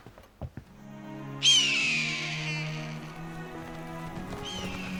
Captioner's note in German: Adler ruft